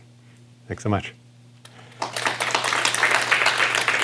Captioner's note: applause